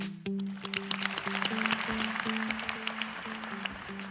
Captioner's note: applause